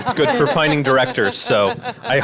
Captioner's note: all laugh